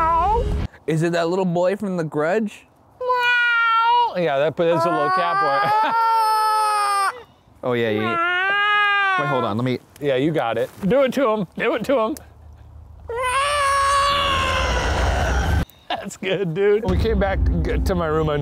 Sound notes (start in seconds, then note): 4.7 meowing; 9.0 meowing; 13.1 shouting